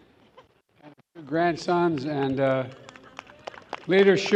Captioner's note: applause